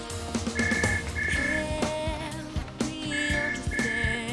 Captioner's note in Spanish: teléfono sonando